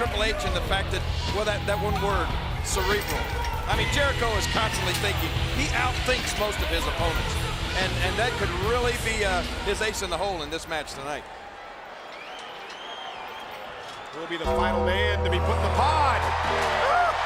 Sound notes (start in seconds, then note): 12.2 crowd murmuring